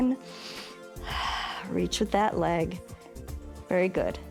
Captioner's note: inhales and exhales